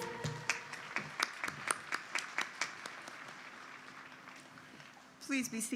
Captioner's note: applause